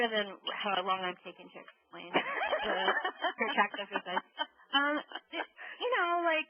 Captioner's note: laughing